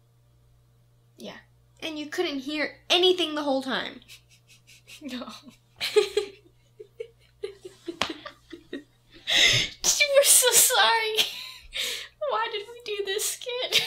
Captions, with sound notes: Yeah. And you couldn't hear anything the whole time? [Chuckles] No. [Laughing] She was so sorry. Why did we do this skit?